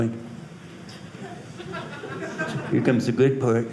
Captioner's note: audience laughing